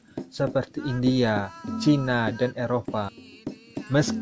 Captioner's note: Arabic